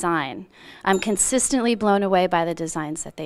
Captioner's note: bell dinging